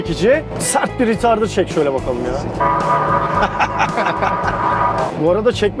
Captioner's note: laughings